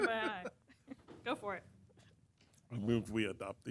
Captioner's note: laughter